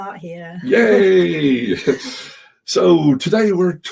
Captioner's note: both chuckling